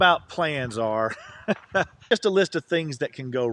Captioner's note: laughs